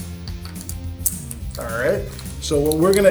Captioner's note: buckle clatters; buckle clicks